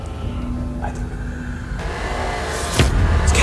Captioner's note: alarm beeping